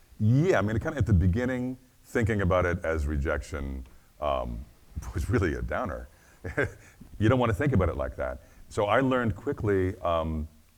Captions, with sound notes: yeah, I mean kind of at the beginning thinking about it as rejection was really a downer. (chuckles) You don't want to think about it like that. So I learned quickly